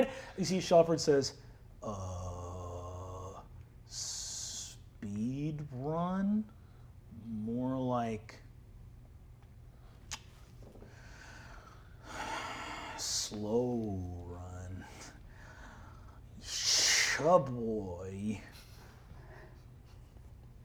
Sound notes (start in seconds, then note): 12.0 sighs